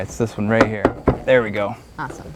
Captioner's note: thud, thud of hand on rail, no additional audio